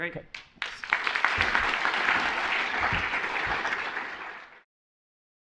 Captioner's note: applause